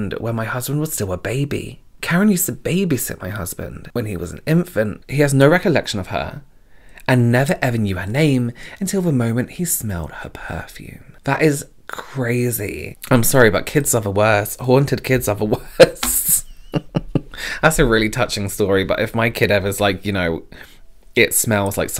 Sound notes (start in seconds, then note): 15.6 laughs